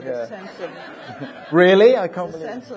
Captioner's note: audience laughing